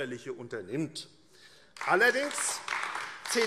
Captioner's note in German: Beifall AfD